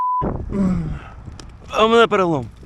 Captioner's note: groaning